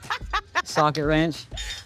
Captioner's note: laughter